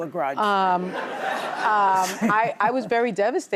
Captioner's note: audience laughs